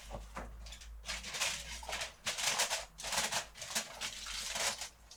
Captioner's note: foil rustling